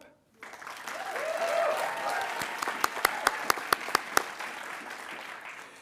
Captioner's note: attendees applauding and cheering